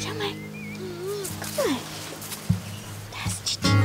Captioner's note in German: Winseln